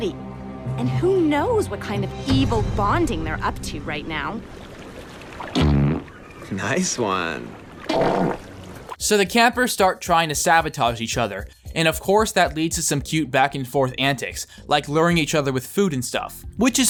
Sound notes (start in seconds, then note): 5.4 OWEN farts; 7.9 DUNCAN farts